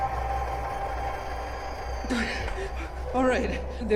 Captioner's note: hard exhale